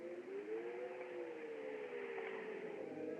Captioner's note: wind Howling